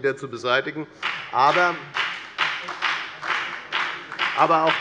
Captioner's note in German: Beifall bei der FDP